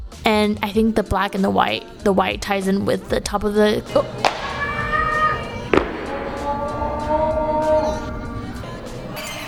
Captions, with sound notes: and i think the black and the white, the white ties in with the top of the oh- [screaming] [SCREAMING]